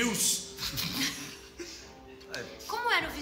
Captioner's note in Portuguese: risos